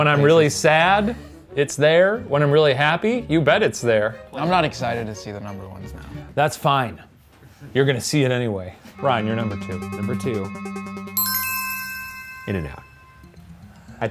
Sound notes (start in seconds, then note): 11.0 bell ringing